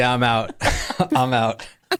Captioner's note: laughing